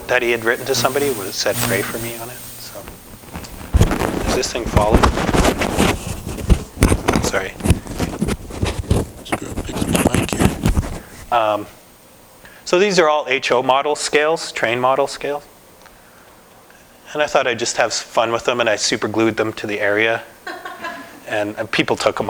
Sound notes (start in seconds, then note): 7.4 mic static